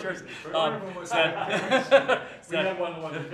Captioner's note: laughter